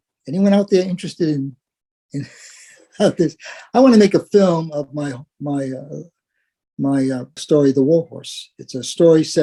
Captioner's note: laugh